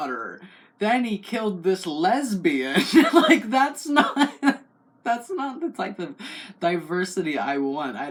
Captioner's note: laugh